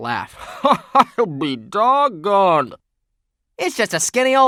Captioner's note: laugh